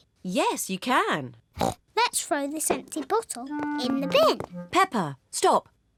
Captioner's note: snorts